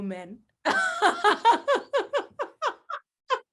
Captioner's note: all laugh